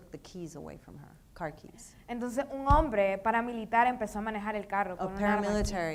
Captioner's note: speaking in foreign language